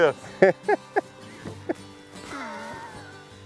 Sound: laughs

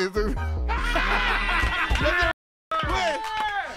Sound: group cheers

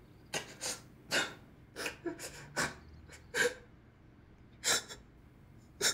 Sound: quiet sobbing

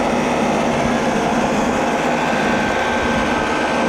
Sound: machines humming

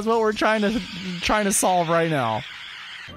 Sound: stutter

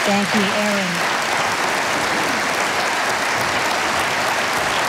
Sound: audience applauding

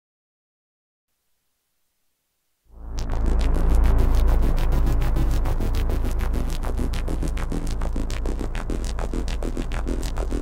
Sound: spooky sound

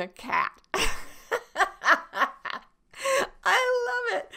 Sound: laughs

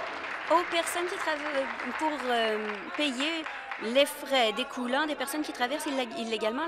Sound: applause

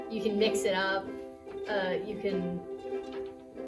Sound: thinking noises

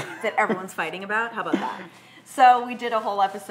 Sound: chuckles

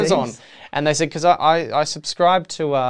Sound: laughs

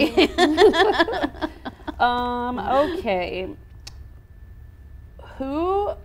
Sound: laughs

